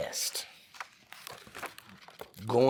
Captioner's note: pages rustling